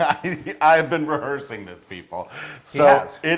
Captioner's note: laugh